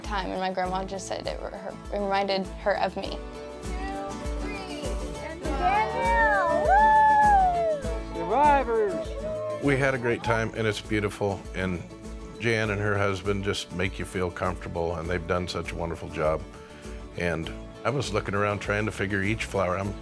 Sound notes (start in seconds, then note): 4.1 upbeat music; 5.2 crowd cheering